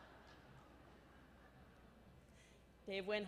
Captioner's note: laughter